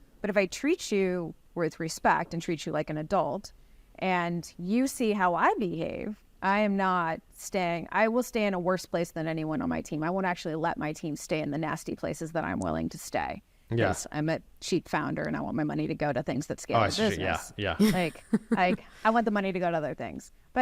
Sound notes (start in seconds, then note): 16.8 laughs